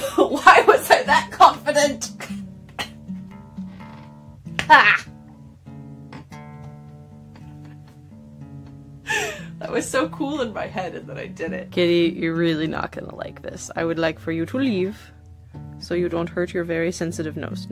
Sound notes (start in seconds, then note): 7.3 hacks up a lung